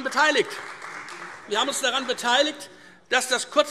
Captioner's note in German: Beifall Freie Demokraten